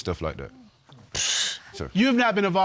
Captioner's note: exhales